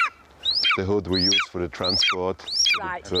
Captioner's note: Cleopatra screeching